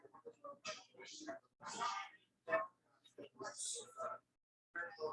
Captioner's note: people chattering indistinctly